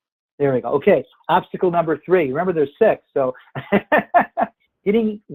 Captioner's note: laughs